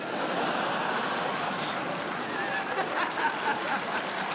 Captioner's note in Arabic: ضحك